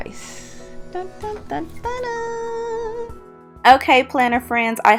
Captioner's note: hums dramatically